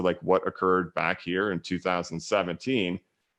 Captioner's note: none